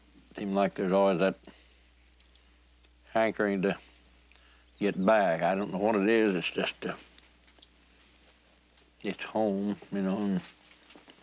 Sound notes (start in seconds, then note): none